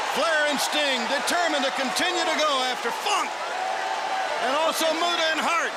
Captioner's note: crowd chatter